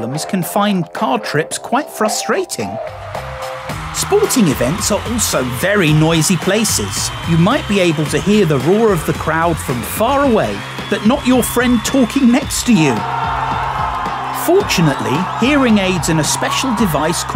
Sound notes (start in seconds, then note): 3.2 crowd cheering; 13.2 crowd